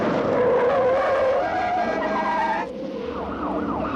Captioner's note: tires screeching; car engines revving